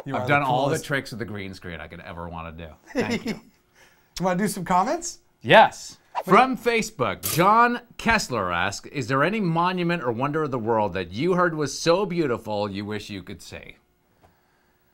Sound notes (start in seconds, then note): 2.8 laughs